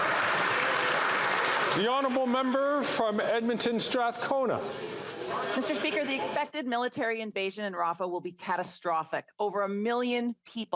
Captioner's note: some Applause